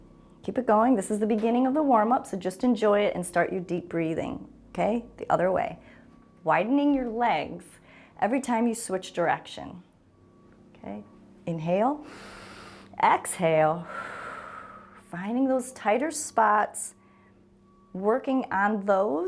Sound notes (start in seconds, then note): 12.0 inhales; 12.0 exhales